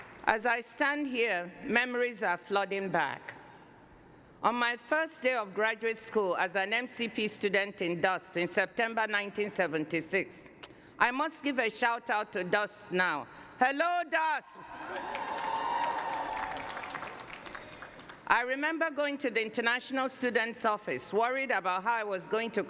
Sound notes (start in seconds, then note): 14.6 cheers and applause